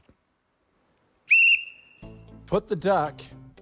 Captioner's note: whistle blares